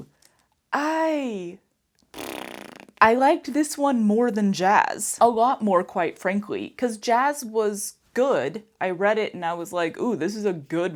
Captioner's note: mouth fart